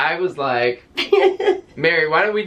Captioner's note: chuckling